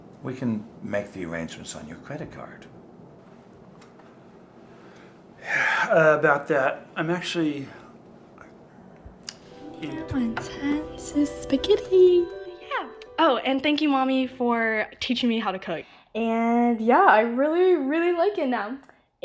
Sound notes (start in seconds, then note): 5.4 man sighing; 11.2 speaking in a foreign language